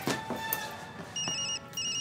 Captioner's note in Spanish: Suena teléfono